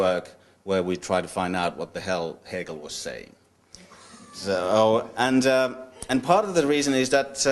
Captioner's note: laughter